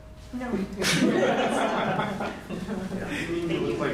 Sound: laughter

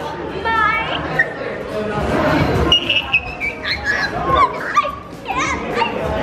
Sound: excited squeaking

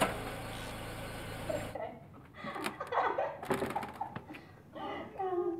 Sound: girls laughing

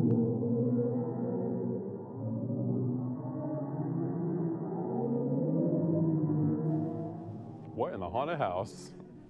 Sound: ominous sound

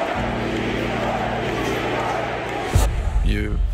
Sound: chanting

